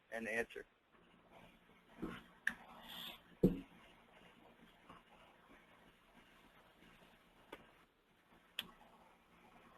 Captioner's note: silence